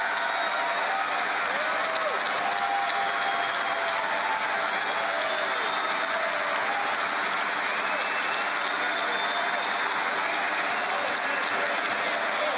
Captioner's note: cheering and APPLAUSE